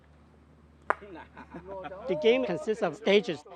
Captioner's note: top clacks